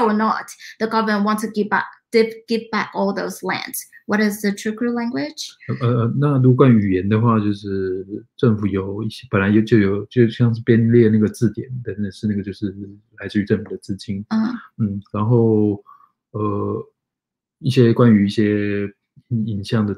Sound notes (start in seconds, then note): 9.8 speaks mandarin